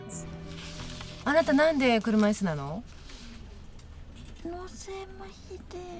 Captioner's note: speaking a foreign language